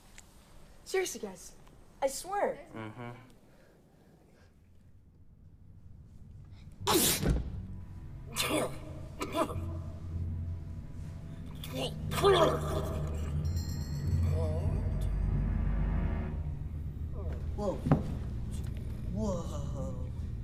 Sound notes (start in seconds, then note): 6.8 sneezes; 9.1 coughing; 11.7 blubbering